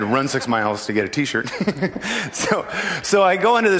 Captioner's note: giggles